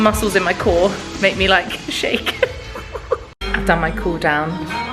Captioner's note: laughing